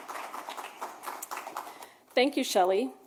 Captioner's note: applause